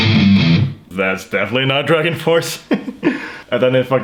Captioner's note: laughs